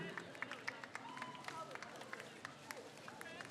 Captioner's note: crowd cheers